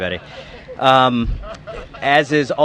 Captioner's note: laughter